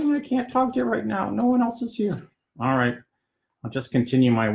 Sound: puppet voice 2; first puppet voice

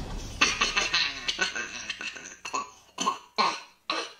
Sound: laughs

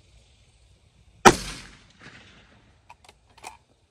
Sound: report of the rifle

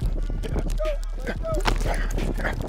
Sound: panting; indistinct chatter

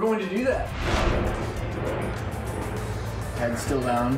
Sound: air whooshing

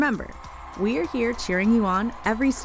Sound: cheering

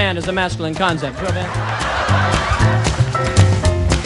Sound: laughter

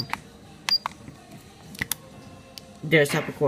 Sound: beeping noise

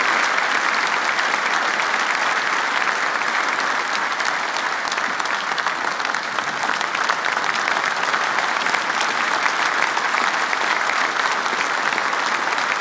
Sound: applause

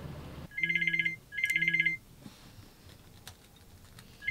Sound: phone rings

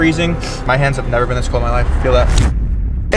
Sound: sniffs; dramatic sound

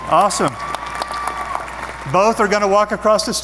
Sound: audience applause

